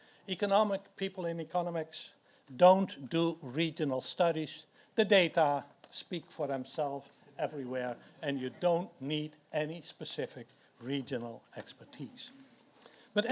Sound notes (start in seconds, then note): none